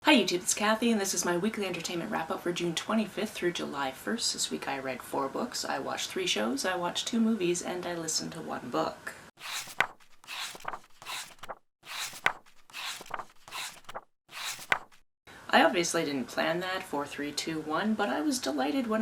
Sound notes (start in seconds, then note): 9.4 pages turning